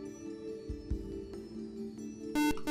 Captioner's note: buzzer